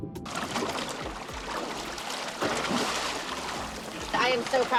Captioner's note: water splattering